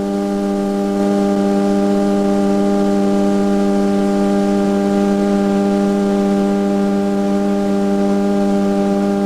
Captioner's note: electrical hum